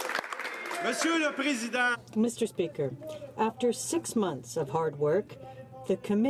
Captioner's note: some Applause